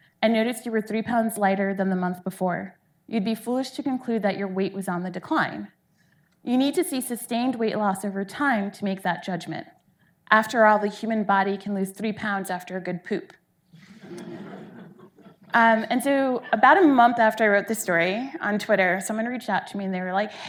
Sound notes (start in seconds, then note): 13.8 audience laughing